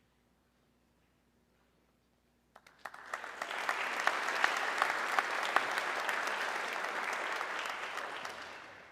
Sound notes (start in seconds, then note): 2.5 audience clapping